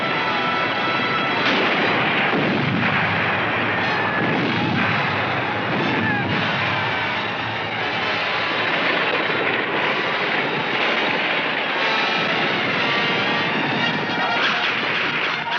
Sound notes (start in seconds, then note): 1.4 pistol firing; 2.2 grenades exploding